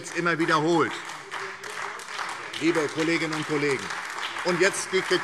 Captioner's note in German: Beifall SPD und vereinzelt Freie Demokraten